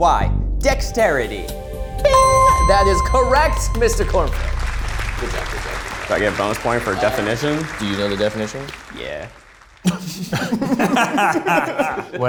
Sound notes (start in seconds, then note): 4.5 audience applauding; 9.8 group laughs